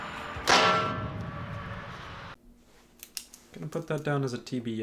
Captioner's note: metal clang